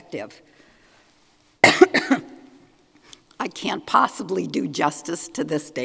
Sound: coughs

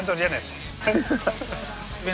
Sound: laugh

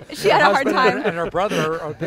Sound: everyone laughs

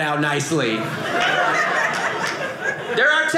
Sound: audience laughing

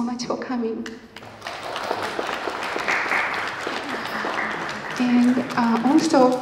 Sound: applause

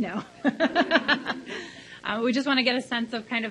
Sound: laughs

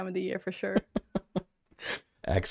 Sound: laug hter

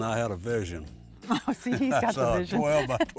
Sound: chuckles

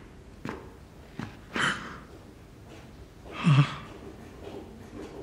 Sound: prince gasps; footfall approaching

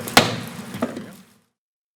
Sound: gavel bangs

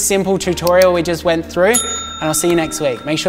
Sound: bell dings

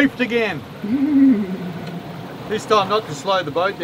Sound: laughs

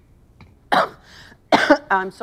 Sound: interviewee coughs

